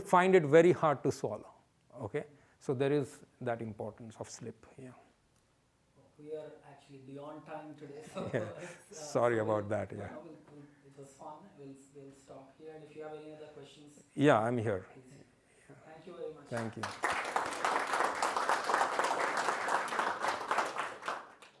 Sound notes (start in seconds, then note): 16.5 applause